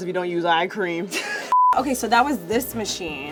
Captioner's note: laughs